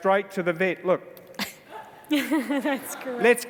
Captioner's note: laughs